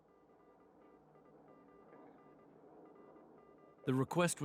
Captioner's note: beeping